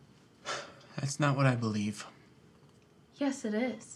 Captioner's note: sighs